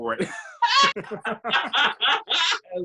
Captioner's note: laughing